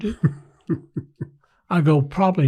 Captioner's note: laughs